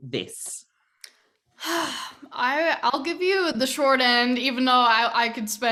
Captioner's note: sighing